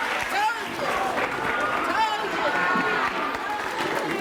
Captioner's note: applause